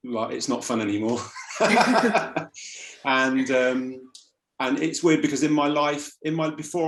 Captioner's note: laughs